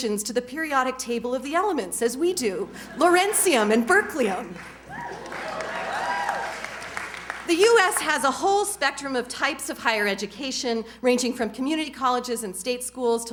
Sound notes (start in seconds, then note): 4.5 cheers, applause